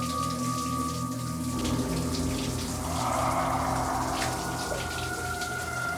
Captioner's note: loud exhale